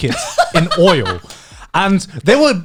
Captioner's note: laughing